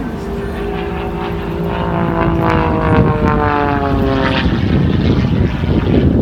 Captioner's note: engine noise; wind buffeting